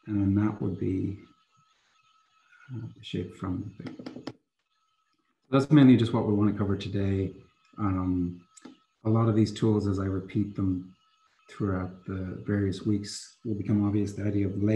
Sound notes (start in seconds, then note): 3.8 keyboard clatters